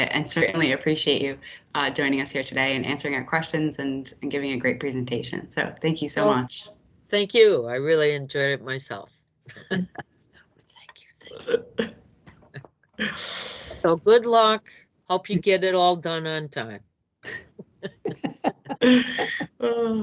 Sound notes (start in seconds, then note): 9.6 laughs; 12.0 participants laughing; 17.3 participants laughing